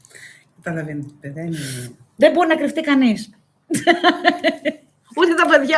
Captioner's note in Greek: γέλια